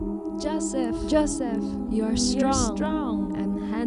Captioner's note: Potiphar's wife voice echoes